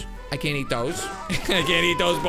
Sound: laughs

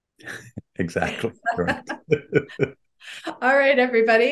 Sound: both chuckle

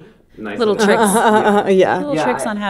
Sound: laughing

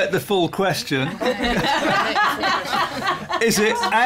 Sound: laughter

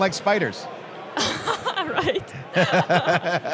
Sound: laughs

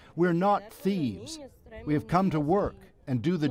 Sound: speaking spanish

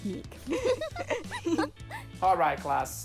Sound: laughing

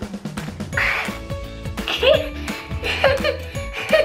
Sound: laughing

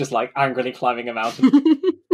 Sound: laughs

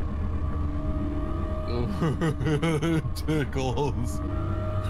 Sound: imiitating Patrick Star

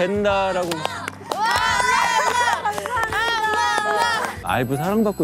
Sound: claps in agreement

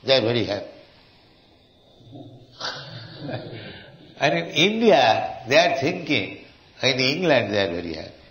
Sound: laughs

